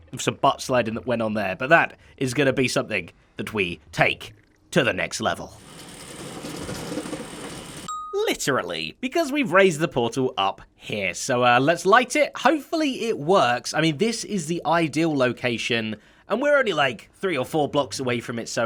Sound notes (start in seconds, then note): 5.5 elevator noise